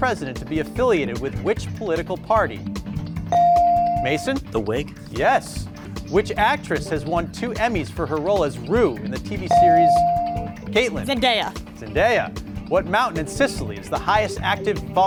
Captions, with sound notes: to be affiliated with which political party? (bell rings) Yes. Mason? Whig? Yes Which actress has won two Emmys for her role as Rue in the TV series? (bell rings) Kaitlyn. - Zendaya. - Zendaya. What mountain in Sicily is the highest active